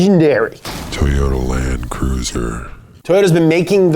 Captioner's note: voiceover